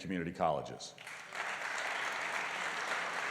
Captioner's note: applause